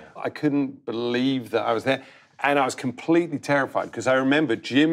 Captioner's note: none